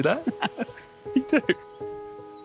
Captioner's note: chuckles